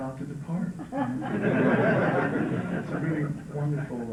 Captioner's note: laughter